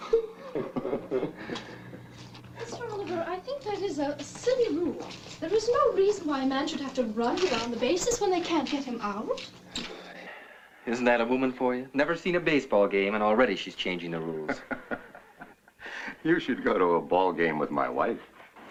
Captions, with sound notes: [ LAUGHS ] I think that is a silly rule. There's no reason one man should have to run around the bases when they can getting out. [ SIGH ] Isn't that a woman for you? Never seen a baseball game and already she's changing the rules. [ LAUGH ] You should go to a ball game with my wife.